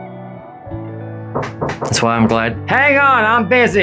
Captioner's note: knocking at door